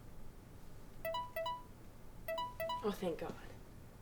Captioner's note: cell phone rings